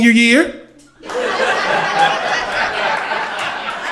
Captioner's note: crowd laughter